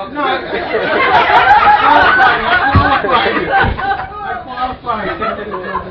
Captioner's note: gülüyorlar